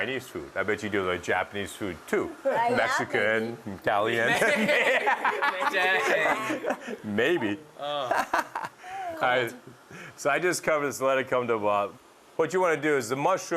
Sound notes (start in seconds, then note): 4.3 laughter, indistinct chatter; 7.8 laughs